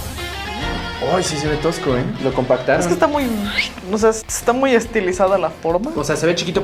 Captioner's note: whistles